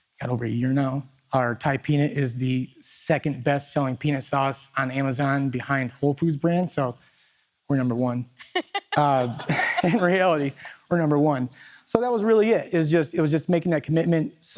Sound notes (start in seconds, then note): 8.4 laughs; 8.4 people laughing